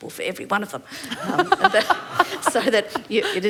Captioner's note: laughter